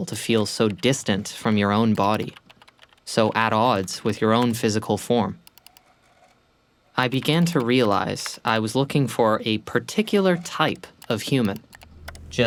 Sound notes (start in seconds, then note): 7.0 mouse clicking